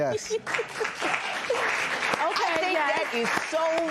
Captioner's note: laughs